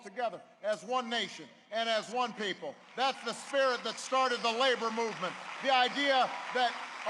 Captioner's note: applause